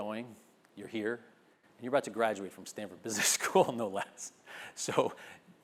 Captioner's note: laugh